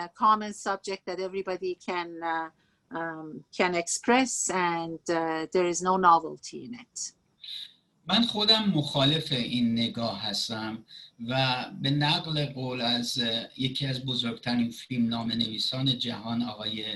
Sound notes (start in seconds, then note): 4.0 speaking Farsi